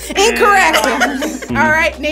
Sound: all laugh

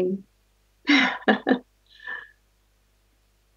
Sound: laughts

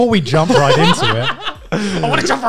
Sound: laughs

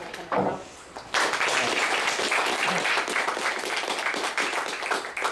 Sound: applause

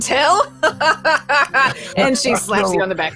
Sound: laughs

